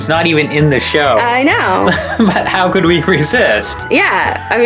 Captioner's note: laughs